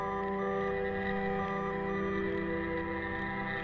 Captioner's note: beeping